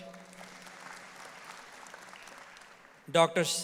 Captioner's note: audience applauds